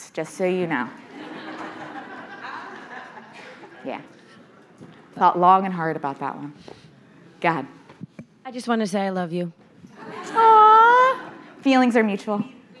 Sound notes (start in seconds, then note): 1.0 audience laughing; 10.9 audience laughing